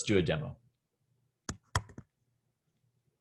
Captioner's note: typing